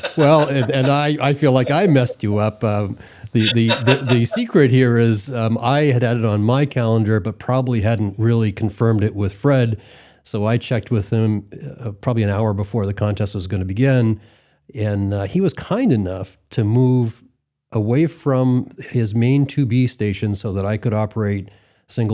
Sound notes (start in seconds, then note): 0.0 laughs